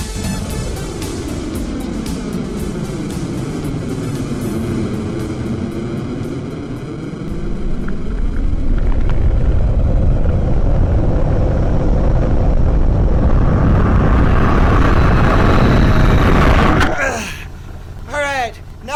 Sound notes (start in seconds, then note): 0.2 sounds of a descending rocket; 7.2 sounds of a landing rocket